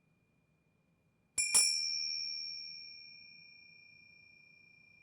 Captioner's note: bell ringing